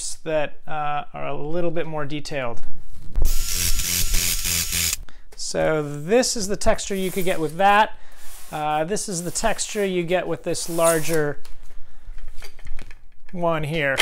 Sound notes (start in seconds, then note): 3.2 drill whirring